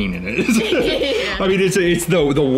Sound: both laughing

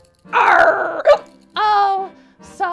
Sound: hiccups

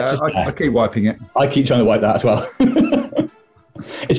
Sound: laughing

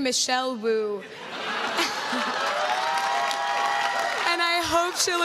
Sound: crowd claps and cheers

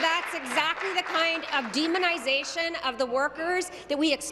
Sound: applause

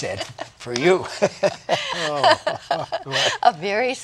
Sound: laughter

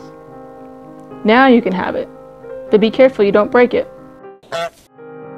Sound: honking

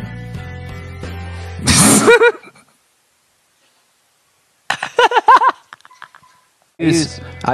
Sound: laughter

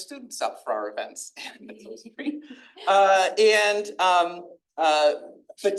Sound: attendees laughing

